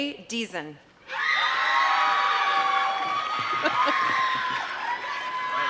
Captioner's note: applause